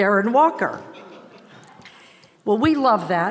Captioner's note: audience chuckles